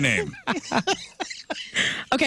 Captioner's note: laughing